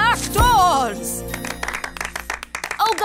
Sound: clapping

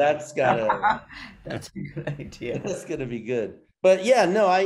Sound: laughing

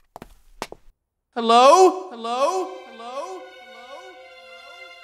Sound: echoing

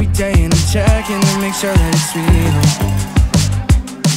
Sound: cheering

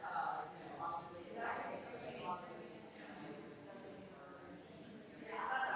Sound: people chattering distantly continues

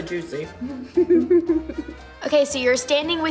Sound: both chuckling

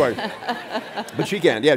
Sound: audience laughs

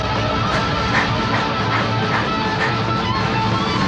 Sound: heavy panting

